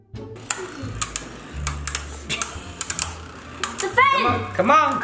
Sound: clicking noises

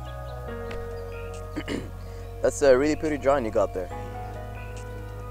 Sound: coughs and clears throat

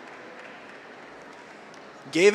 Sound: audience applauds

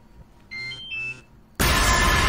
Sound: phone chime; dramatic music

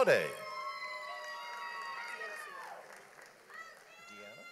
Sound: audience applauds

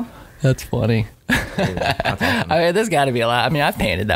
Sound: laughing

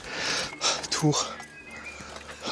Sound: sighs

